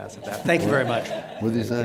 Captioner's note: laughter